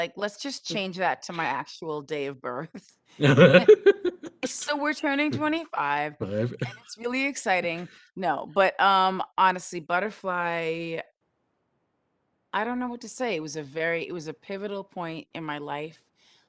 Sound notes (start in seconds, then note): 3.2 laugh